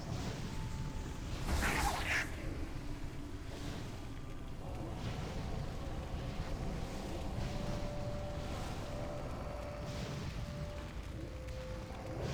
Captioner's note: whirring